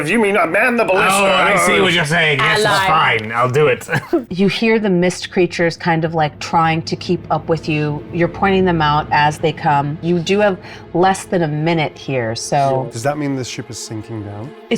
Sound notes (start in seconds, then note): 1.3 groans; 3.1 chuckles